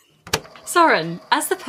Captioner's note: tape recorder clicks on